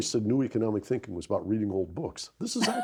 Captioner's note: Rana laughs